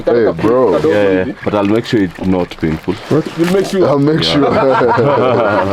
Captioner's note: laughs